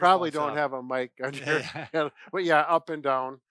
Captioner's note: laughs